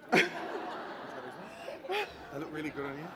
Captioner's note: laughter; laughs